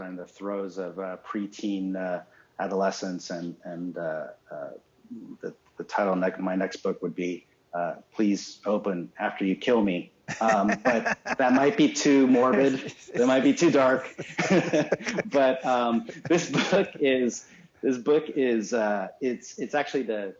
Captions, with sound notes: are in the throes of preteen adolescence. And the title of my next book would be "Please, Open After You Kill Me." (laughs) But that might be too morbid. It might be too dark. (laughs) But this book is actually the first book